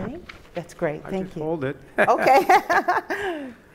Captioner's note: laughter